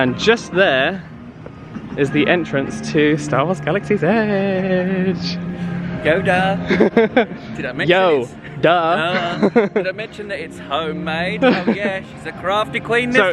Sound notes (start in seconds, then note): 6.6 laughs; 8.8 laughs